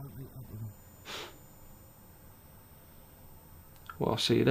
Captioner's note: laughs